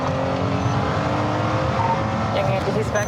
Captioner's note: radio beeps